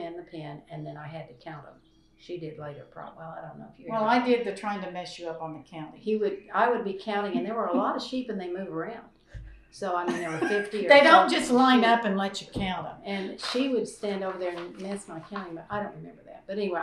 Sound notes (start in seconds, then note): 6.2 laughs